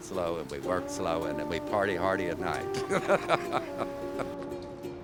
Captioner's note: laughs